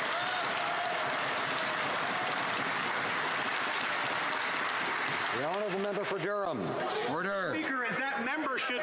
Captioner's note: some Applause